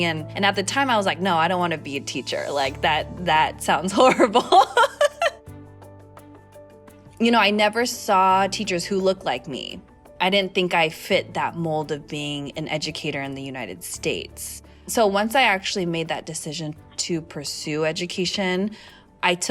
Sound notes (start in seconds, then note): 4.1 laugh